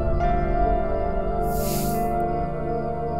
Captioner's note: Sighs